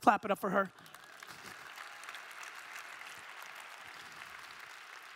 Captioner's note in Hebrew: תשואות בקהל